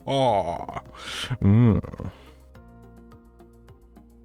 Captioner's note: Disapproving Witcher noise